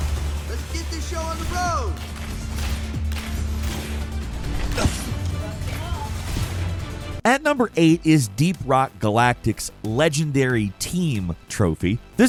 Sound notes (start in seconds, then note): 2.7 artillery firing